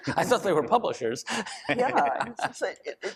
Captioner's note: laughs